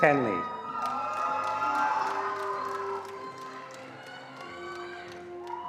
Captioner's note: attendees cheering and applauding